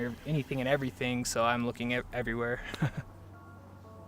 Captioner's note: chuckles